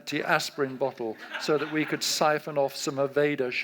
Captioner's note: audience laughs